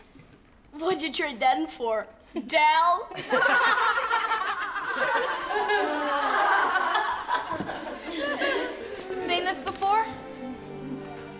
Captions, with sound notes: - What'd you trade that in for, Dal? (laughing) - Seen this before?